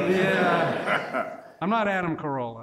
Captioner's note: laughing